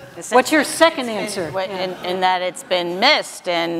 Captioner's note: audience laughs